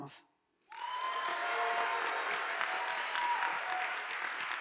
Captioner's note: audience applauding